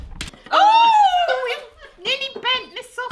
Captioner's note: screams